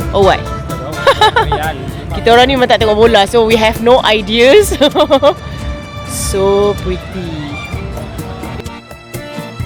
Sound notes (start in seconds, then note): 1.0 laugh; 4.5 laugh